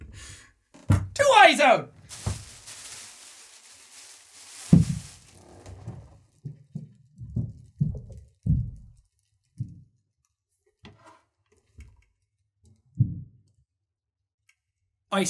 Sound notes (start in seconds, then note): 4.4 muffled stomping; 13.1 muffled stomping